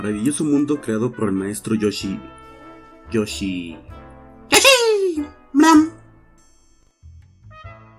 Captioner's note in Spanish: sonidos de Yoshi